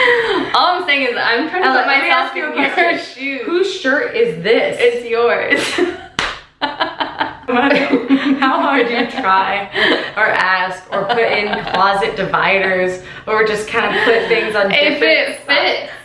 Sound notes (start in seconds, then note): 6.7 laughing